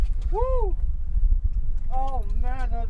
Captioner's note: whooping